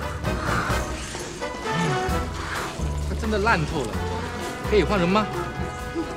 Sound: speaks in foreign language

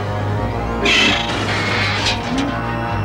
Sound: metal screeching & growling

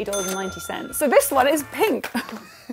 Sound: laughs

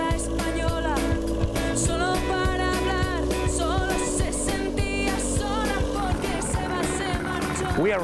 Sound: motorboat

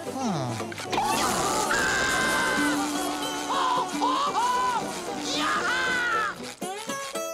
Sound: screaming

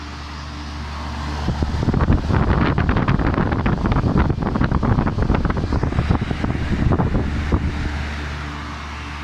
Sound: wind wooshing

